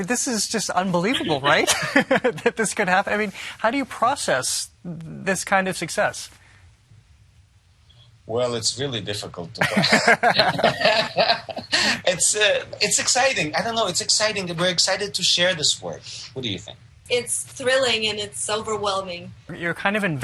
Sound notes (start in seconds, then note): 1.1 laughs; 9.7 all laugh